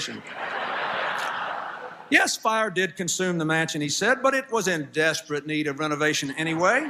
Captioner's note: laughter; laughter